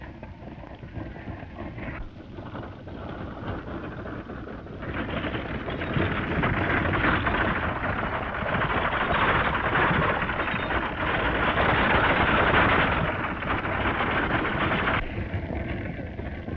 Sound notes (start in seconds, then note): none